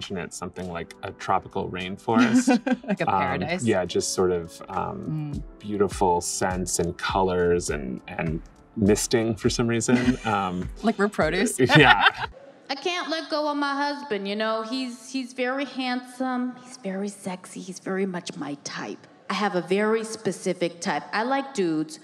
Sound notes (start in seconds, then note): 1.8 laughs; 11.3 laughs